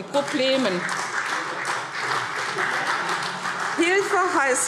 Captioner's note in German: Beifall CDU